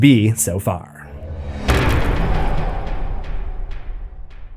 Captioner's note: impact